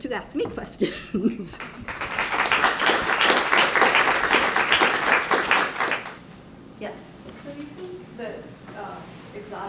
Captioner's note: applause